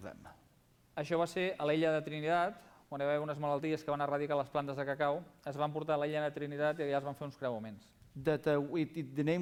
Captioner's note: non-english speech